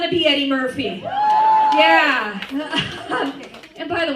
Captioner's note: cheers